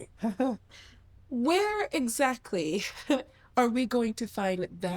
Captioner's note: chuckles